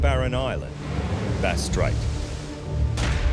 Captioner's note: waves crashing